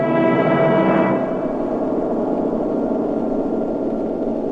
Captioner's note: intense whooshing